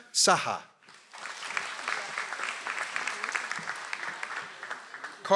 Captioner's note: audience applauds